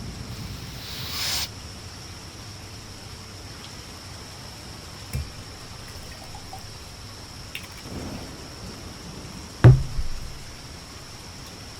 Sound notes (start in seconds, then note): 0.4 snort